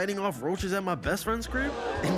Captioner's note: crowd gasps